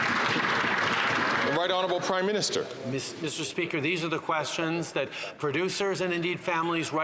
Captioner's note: some Applause